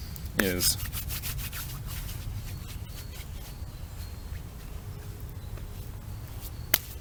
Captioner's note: hands rubbing together noises